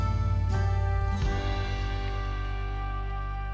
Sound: sound of footsteps

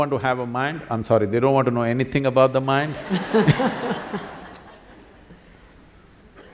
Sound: laughter

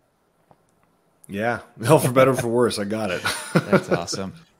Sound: chuckling

